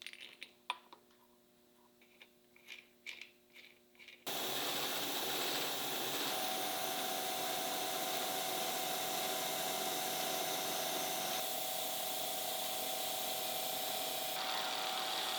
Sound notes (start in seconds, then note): 0.1 tools clinking; 4.6 bit sawing and buzzing; 12.6 drill whirring